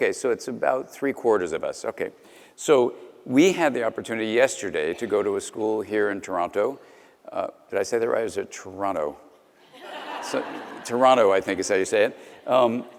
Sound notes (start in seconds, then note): 9.7 audience Lauging